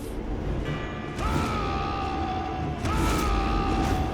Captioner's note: a clone braggart’s roar